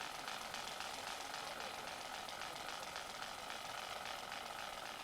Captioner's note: film reeling